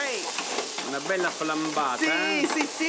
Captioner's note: speaking Italian